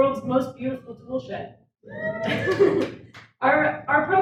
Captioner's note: audience cheers